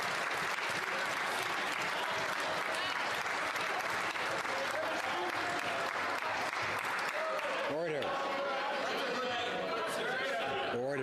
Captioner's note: cheering and Applause